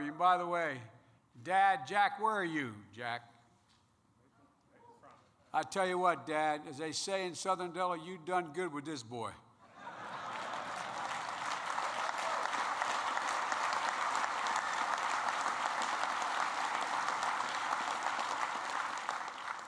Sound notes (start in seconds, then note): 13.6 laughter and applause